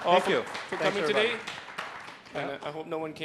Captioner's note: applause